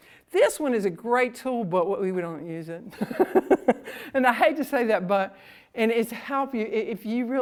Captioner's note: laughs